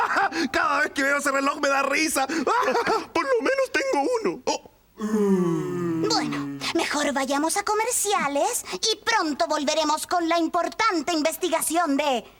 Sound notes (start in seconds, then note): 0.0 laughs; 5.0 ooh